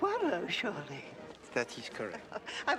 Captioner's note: Tertawa